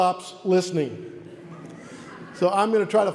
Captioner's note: audience laughs